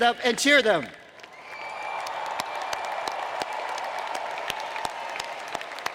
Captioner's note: applause; cheers and Applause